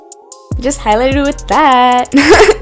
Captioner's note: sing-song voice; laughs